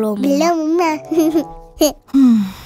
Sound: laughing

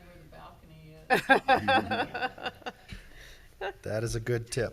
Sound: laughing

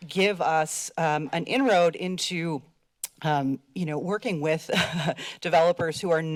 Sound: laughs

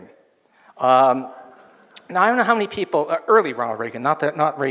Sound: audience laughs

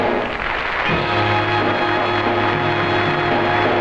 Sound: audience applauds

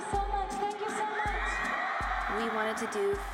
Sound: cheers, applause

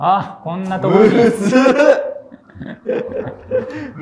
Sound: laughing

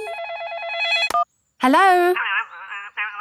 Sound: phone ringing

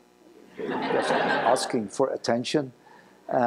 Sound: laughter

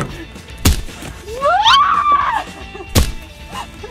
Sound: pumpkin thudding; squealing; pumpkin thudding

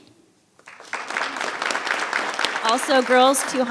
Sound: audience applauds

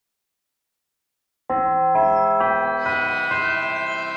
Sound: bell chimes

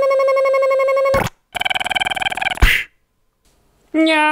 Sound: buzzzz snap; buzzzz pop

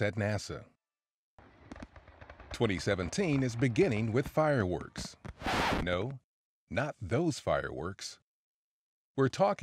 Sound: record-scratch sound effect

